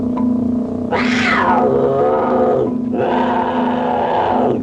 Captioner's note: leopard roaring